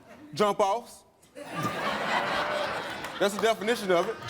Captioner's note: laughing